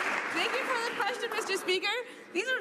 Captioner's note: some Applause